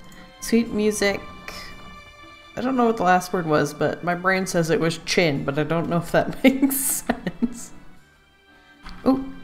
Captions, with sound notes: Sweet music... I don't know what the last word was but my brain says it was 'chin' but I don't know if that makes sense *laughs*